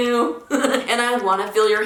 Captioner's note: laughing